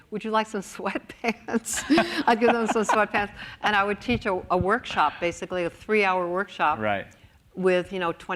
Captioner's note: laughs